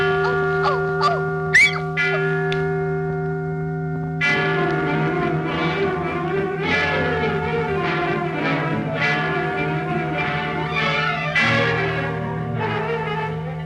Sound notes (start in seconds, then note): 1.5 squeaks; 4.1 suspenseful music; 4.3 clock tolling